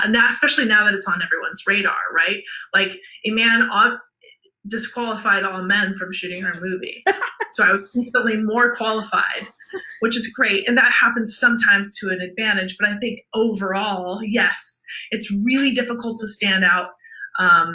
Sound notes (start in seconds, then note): 7.0 laughs